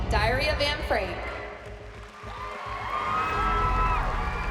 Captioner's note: applause, cheering; dramatic music playing